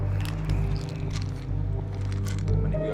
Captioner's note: pills rattling